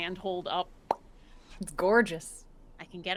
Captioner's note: mimics popping